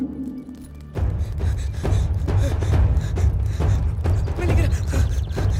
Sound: panting

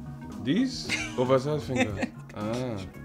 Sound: Efosa Laughs

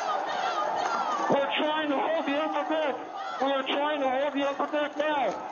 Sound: shouting

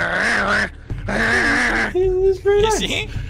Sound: some space alien growl; some more space growl

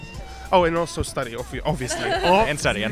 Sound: laughs

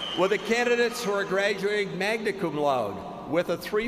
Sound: cheers and applause

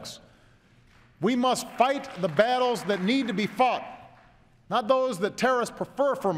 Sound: applause

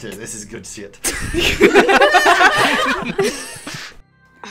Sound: laughter

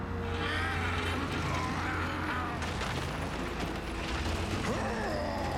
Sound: grunting

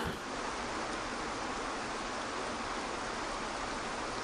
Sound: waterfall whooshing

